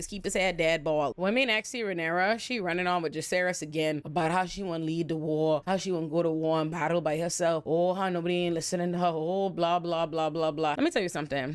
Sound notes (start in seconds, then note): none